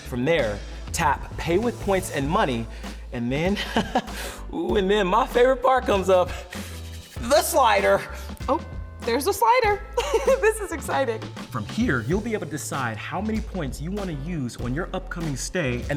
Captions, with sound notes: From there, tap "Pay with Points & Money." And then, (chuckles), ooh, and then my favorite part comes up, the slider! - Oh, there's a slider. (chuckles) This is exciting. - From here, you'll be able to decide how many points you want to use on your upcoming stay,